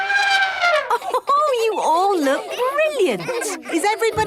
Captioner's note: trumpeting; Mummy Pig laughing